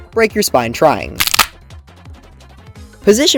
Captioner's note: neck-snap